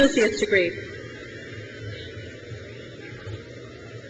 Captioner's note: crowd cheers